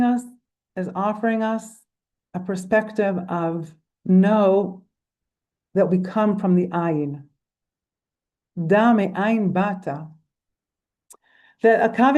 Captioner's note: in Hebrew